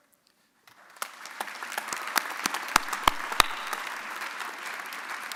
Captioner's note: audience applauding